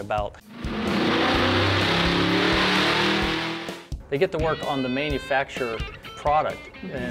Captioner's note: motor noise